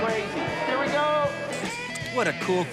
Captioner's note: picture taken